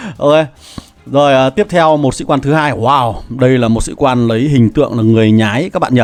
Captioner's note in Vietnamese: khịt mũi